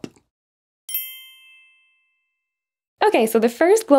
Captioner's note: gentle chime jingling